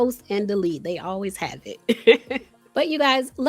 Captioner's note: laughs